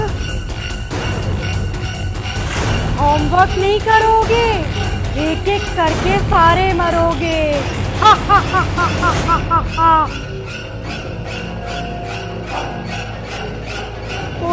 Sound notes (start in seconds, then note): 0.0 scary Music; 7.9 laughing; 10.2 scary Music